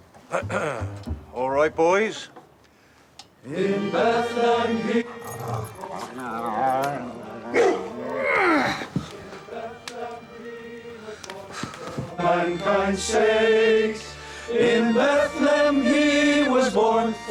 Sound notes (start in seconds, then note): 0.3 clearing throat; 5.2 dog whining; 7.5 dog barking